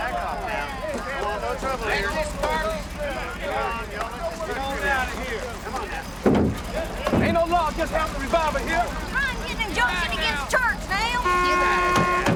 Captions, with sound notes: - Am I'm gonna say go and scram. (horn honking) - Back off pal. - We want no trouble here.